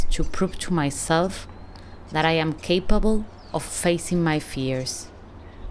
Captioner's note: birds chirping